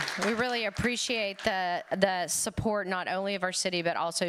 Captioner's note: applause